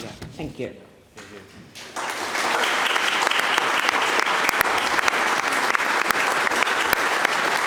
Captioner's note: applause